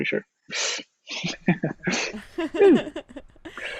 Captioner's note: laughs